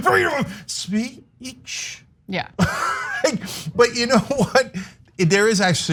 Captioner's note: laugh